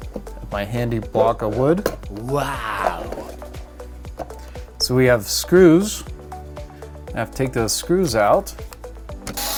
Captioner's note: male voice: wow!